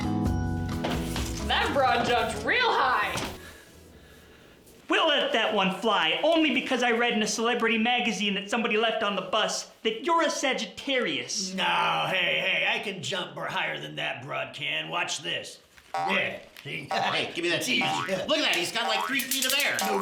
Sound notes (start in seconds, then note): 17.8 boinging sound